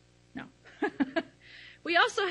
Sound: laughs

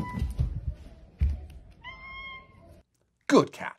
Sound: cat meows in final tone of scale

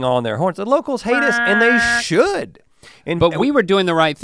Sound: mimics horn honking

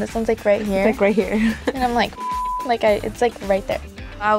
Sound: beeping

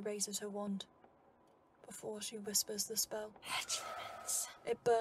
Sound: whispering

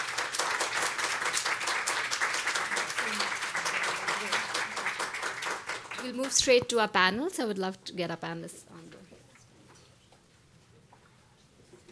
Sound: applause

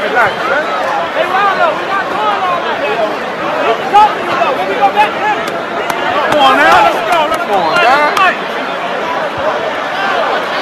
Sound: crowd chatter

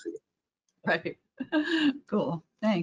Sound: chuckles

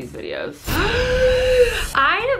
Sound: gasps

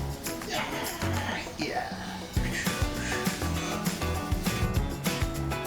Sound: giggle😎😎; wiping

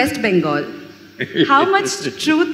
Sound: Sadhguru laughs

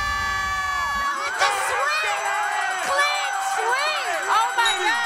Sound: shouting, cheering

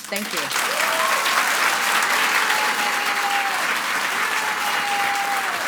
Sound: audience applauds and cheers

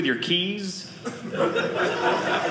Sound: audience laughing

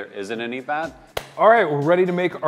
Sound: claps hands

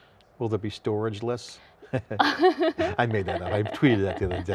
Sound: laughs

